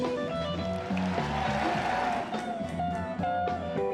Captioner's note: crowd cheers